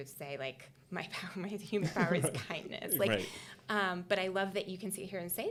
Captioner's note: chuckling